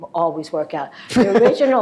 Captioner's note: laughs